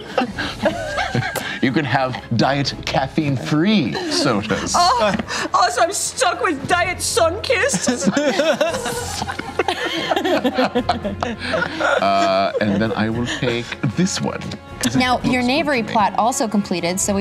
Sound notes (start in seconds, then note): 0.0 laughter; 5.0 imitates German accent; 7.6 laughter